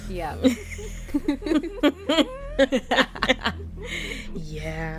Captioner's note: laughter